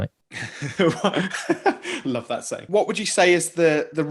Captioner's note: laughing